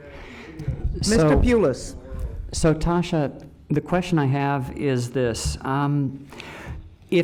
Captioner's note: arguing in the background